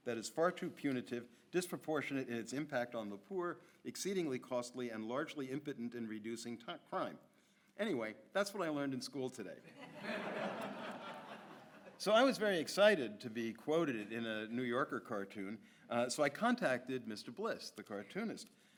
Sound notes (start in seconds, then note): 9.7 audience laughs